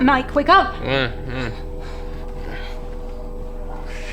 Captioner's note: groaning